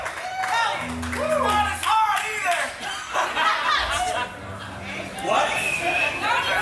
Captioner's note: crowd laughs